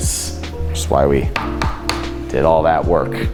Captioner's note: pen taps